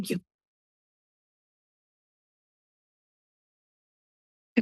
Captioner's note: silence